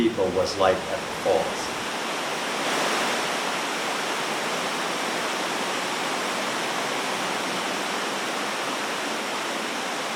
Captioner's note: rushing water sound